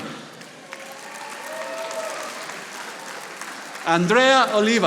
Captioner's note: audience applauding